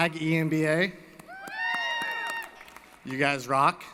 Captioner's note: applause & Cheering